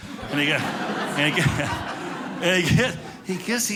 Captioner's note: audience laughing